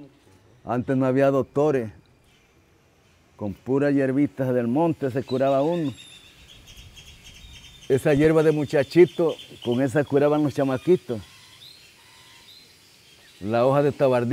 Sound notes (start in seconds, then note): 7.6 speaking in foreign language